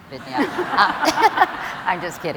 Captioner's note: laughter